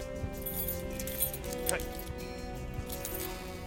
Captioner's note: keys jangling